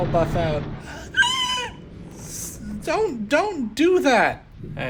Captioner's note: Screech